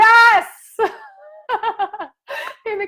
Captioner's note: laughs excitedly